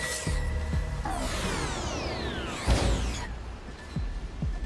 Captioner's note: dramatic music; beeping; dramatic music